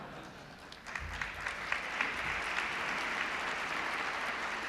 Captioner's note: applause